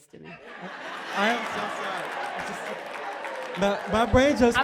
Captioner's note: applause and laughter